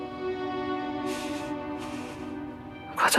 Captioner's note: trembling breath